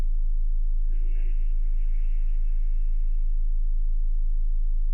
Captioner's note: slow breathing